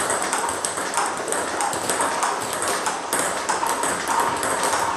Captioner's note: ball ping pong hitting continues